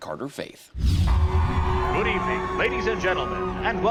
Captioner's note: crowd cheers